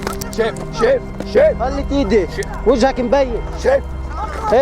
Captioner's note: shouting in Arabic and Hebrew